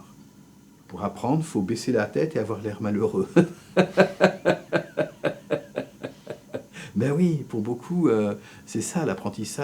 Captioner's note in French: rires